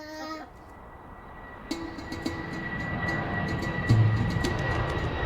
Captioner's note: jet engine roars